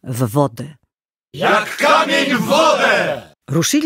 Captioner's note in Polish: okrzyk